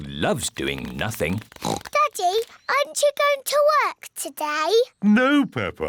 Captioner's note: oinks